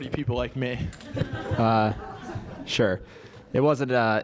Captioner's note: laugh